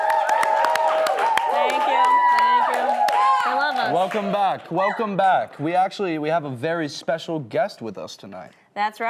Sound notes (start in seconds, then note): 0.0 audience Clapping